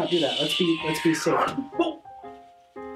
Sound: Super Monica whooshes

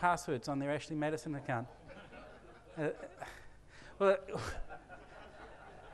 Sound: laughter from audience

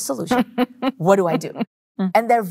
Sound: chuckling

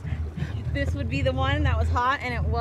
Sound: laughing

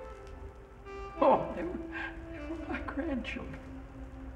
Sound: laughs

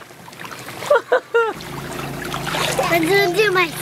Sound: laughs

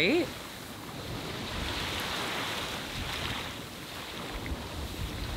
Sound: waves crashing gently

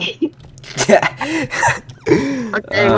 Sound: laughing

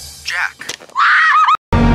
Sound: screams

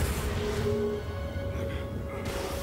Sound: grunting

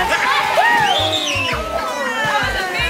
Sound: kids cheering

